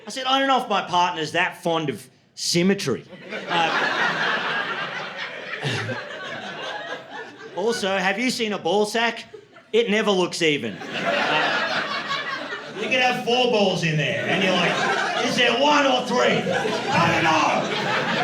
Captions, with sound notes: I said, "I don't know if my partner's that fond of symmetry." [LAUGHTER] "Also, have you seen a ball sack? It never looks even." [LAUGHTER] "You can have four balls in there." And he's like, "Is there one or three? I don't know."